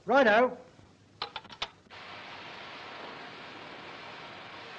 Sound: phone clicks

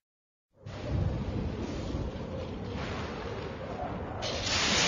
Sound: thunders rumble; lightning crashing down as rousing fanfare plays

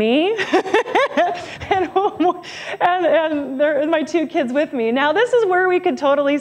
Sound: laughs

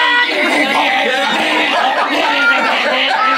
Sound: person choking; people laughing

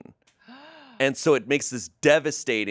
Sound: gasps

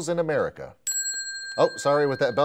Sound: ding

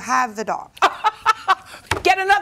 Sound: laughs

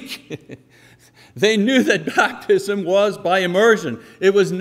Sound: laughing

